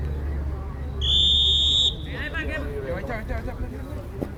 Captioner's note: whistle